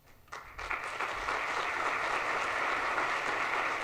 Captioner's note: audience applauds